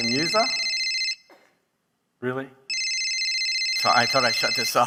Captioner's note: phone ringing